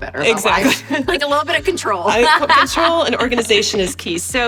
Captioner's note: laughs